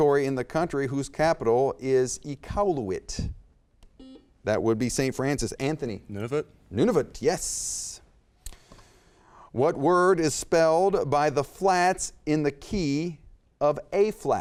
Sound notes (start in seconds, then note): 4.1 beep